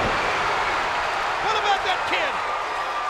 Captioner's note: spectators cheering